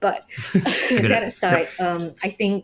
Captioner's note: all chuckling